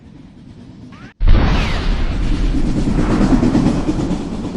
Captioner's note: explosion